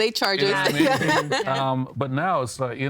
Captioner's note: laughing